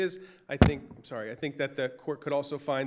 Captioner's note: microphone popping